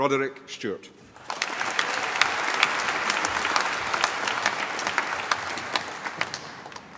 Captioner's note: applause